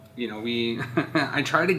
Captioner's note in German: lacht